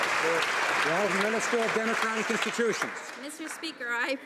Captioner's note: some Applause